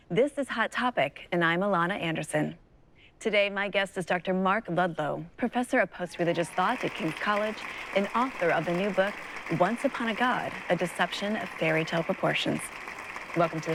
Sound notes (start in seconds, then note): 7.4 audience applauds